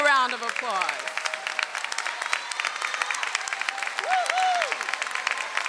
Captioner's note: audience applauds